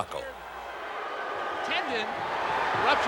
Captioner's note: audience booing